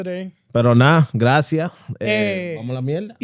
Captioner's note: speaking Spanish